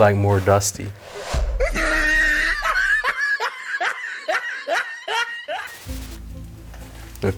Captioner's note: funny Laugh